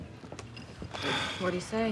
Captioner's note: sighs